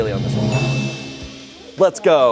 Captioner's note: bell chimes